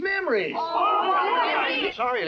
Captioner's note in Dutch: boze stemmen